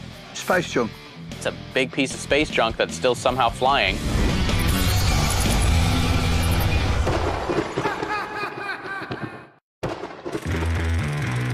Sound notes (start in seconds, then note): 6.0 laughs; 6.0 lightning strikes